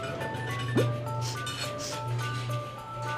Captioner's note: sniffing